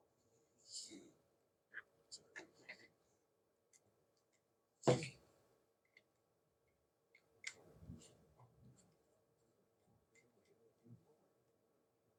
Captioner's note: silence